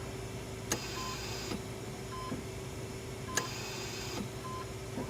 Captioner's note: machines beeping